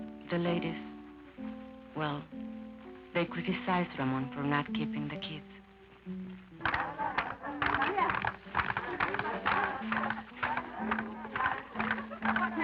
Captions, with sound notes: The ladies, well, they criticized Ramon for not keeping the kids. [women shouting and clapping]